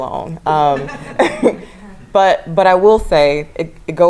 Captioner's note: laugh